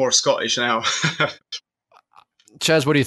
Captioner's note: laughs